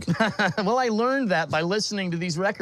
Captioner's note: laughs